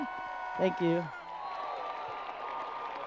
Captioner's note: crowd applause